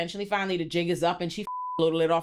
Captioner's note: beep